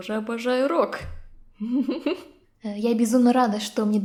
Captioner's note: laughter